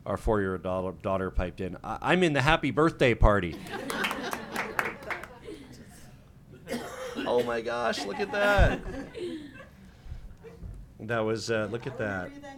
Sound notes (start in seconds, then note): 3.6 clapping; 3.9 laughing